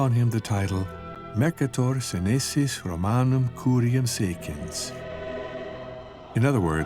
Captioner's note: speaking in foreign language